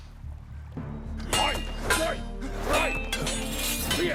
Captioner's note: shouting and grunting